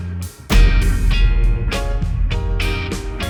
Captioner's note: boom